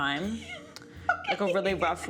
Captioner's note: laughs